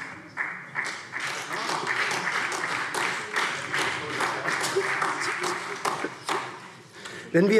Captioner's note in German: Beifall SPD